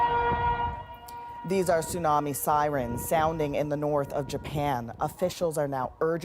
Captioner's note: sirens